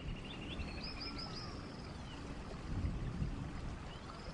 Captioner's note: birds tweeting